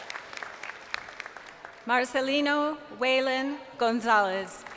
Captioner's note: crowd cheering